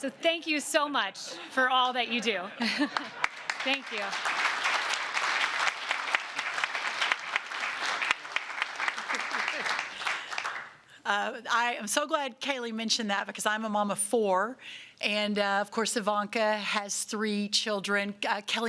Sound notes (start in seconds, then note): 5.3 applause